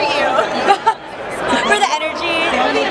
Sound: laughs

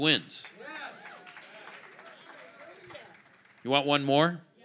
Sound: congregation applaud

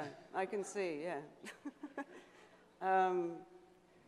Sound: laughs

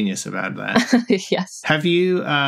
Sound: laughter

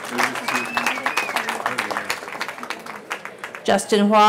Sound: cheering

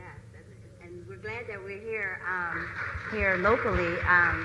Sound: applause

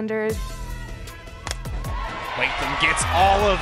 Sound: ball connecting with bat

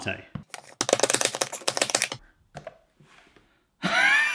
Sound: sped-up chopping

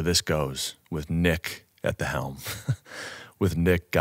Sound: chuckles

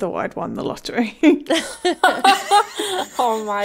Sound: laughing

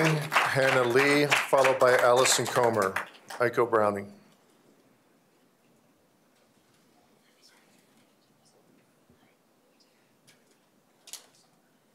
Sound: applause

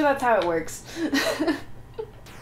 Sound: laughter

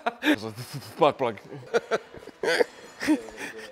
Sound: laughs; stutters; laughs

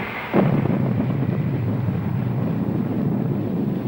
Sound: explosion booming

